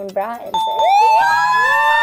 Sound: chiming; cheering

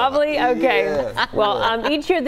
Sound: laughter

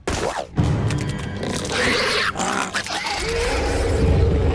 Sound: screeching

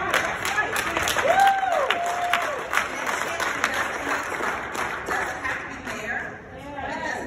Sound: applause

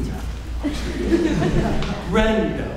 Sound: audience laughing

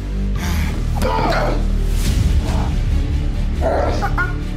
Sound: both yelling

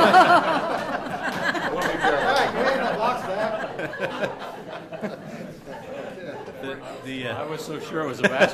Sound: laughter

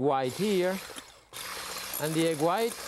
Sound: mixer whirring

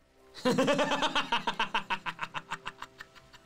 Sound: laughter

